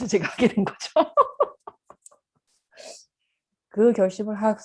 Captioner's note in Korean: 웃음